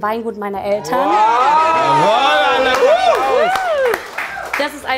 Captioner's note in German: Jubel, Tröten, Applaus